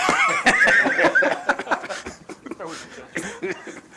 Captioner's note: laughter